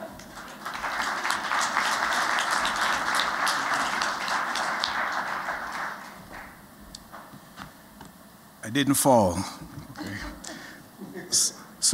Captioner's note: �applause�